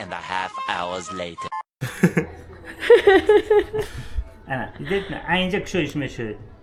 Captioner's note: laughter